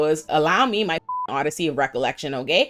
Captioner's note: beep